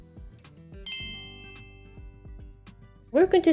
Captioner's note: bell rings